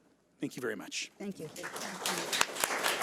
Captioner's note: audience applauds; overlapping chattering